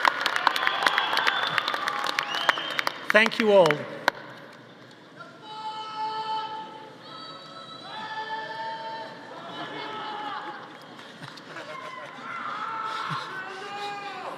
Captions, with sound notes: Thank you all. (audience cheering) (audience laughing)